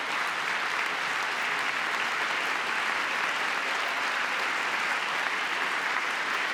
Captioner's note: applause